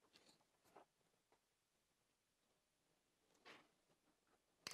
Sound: no speech

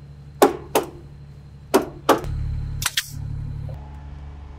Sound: hammer banging

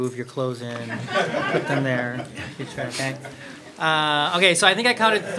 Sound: crowd laughs

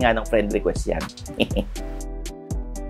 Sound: chuckles

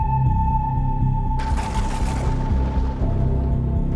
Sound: distant thunder

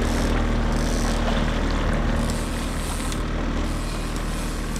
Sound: reel clicking in

